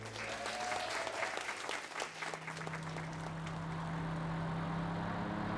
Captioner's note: song ends, audience cheers and applauds